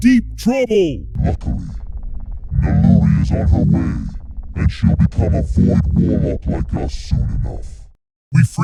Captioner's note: in demonic Voice